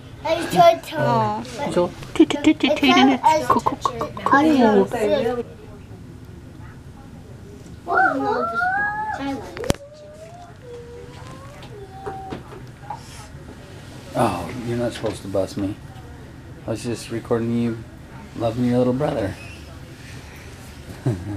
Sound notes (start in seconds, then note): 2.4 babytalk; 8.0 playful screams